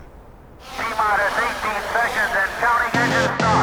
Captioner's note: man talks through loudspeaker